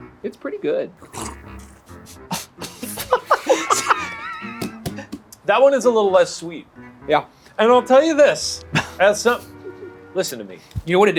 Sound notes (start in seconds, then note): 3.3 group laughs; 8.7 laughs